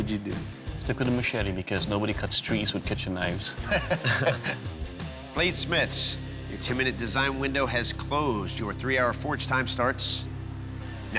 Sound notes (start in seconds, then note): 3.5 laughter